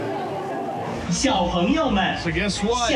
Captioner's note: speaking Chinese